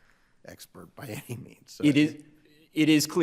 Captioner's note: laughing